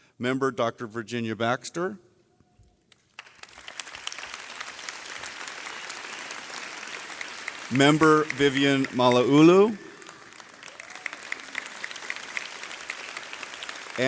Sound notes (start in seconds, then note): 3.6 audience clapping; 11.0 audience clapping